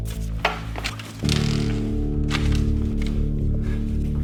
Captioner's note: floor creaking